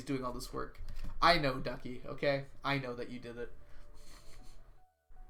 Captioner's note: chuckles